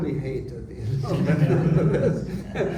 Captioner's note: laughter